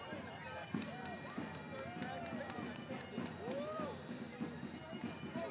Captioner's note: small applause and cheering